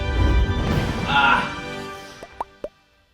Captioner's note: groaning; bubbles popping